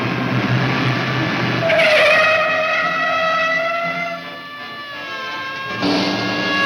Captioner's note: tires squealing; siren blaring